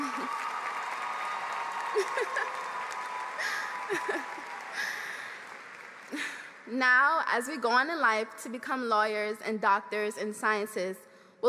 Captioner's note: applause